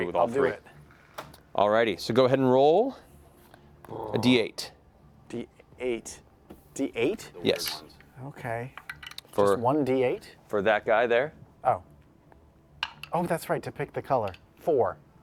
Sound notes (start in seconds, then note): none